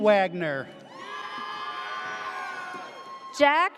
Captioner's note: audience cheers